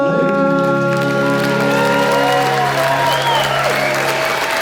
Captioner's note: audience applauds